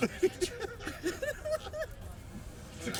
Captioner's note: laughs